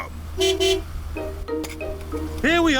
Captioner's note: honks horn